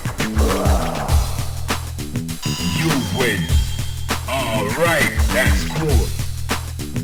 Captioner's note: laughs